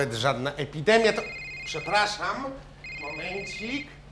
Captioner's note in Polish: dzwoni telefon